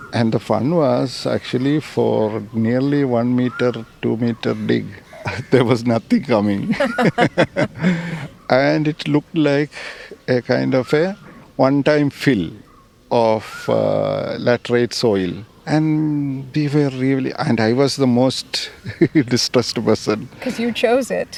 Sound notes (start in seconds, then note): 7.6 laughs